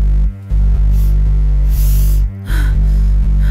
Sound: heavy breathing

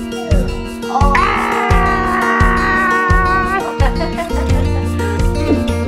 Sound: making angry noises

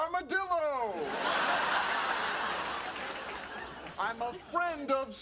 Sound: audience laughing

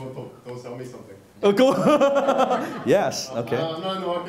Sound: laughing

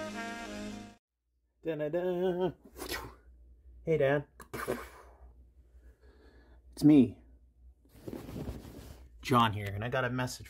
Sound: swoosh sound effect

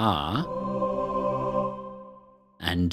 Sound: “ahh” chorus

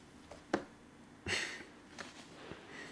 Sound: chuckles

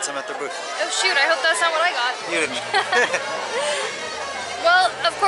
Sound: laughter

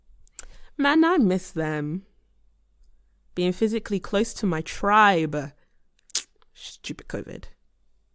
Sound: kisses teeth

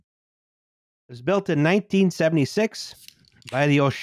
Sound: tasty can goes SNAP!

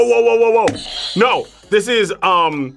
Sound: buzzer rings

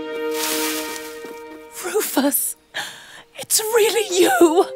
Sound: Linda, crying

